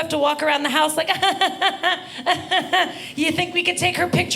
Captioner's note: giggling